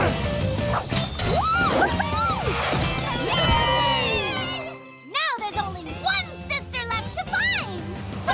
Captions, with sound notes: Woo hoo hoo! [cheering] Now there's only one sister left to find!